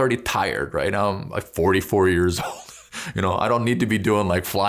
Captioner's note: laughs